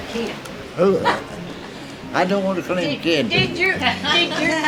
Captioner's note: laughs